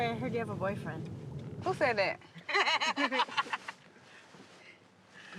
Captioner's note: laughing